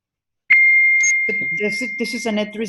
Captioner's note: beeping sound